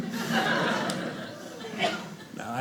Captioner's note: audience laughing